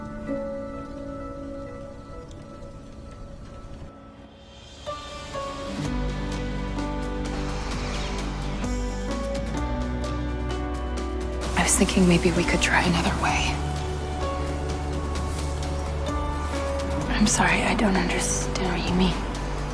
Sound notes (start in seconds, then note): 11.7 voiceover